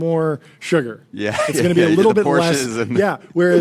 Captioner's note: laughs